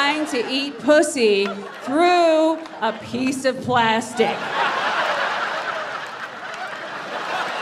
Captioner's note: audience laughs